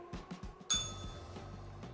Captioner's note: bell rings